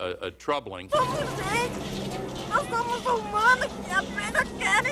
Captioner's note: speaking in foreign language